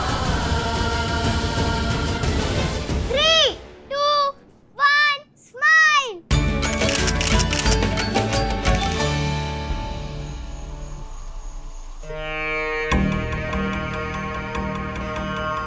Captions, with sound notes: Three! Two! One! Smile! [camera clicks] '17th Century!' [suspenseful music plays]